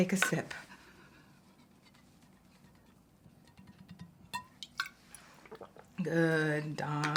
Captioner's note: breathing shakily